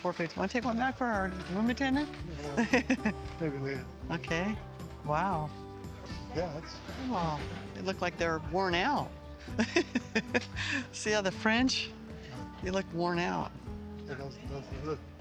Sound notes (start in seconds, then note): 2.4 laughs; 9.5 laughs